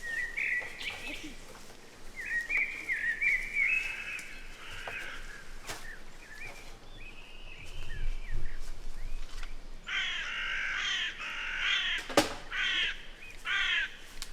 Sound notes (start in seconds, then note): 9.9 bird squawking